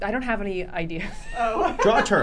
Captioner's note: laughing; laughs